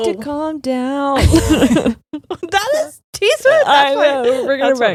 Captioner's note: both laughing